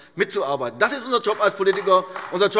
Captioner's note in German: Beifall AfD